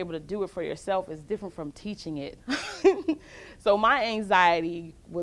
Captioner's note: laughs